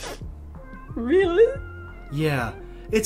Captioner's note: sniff